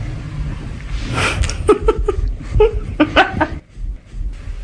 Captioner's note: laughter